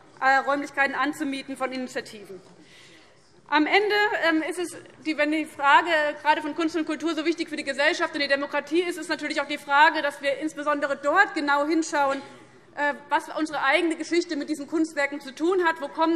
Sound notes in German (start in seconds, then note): none